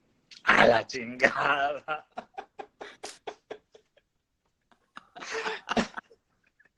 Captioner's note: laughing